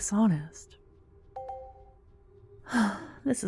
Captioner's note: positive sounding chime in the distance